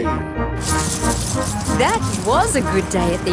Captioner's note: coins jingling